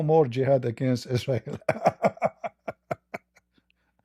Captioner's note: Ketawa